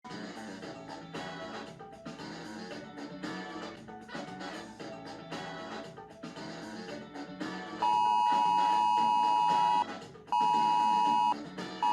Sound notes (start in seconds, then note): 0.0 TV playing music; 7.9 phone beeps